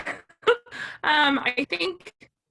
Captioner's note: laughs